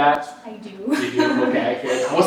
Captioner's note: laughs